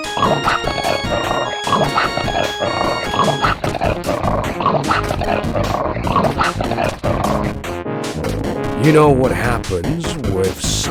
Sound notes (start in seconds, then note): 8.5 Cerberus growling as it corners JackONado